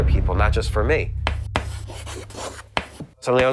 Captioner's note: chalk scraps